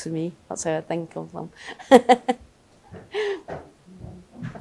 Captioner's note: laughter